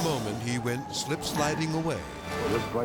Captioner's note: tire screeches